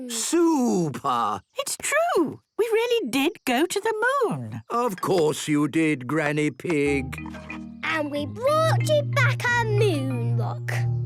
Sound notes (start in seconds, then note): none